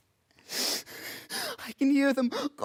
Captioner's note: soft breathing; sharp breaths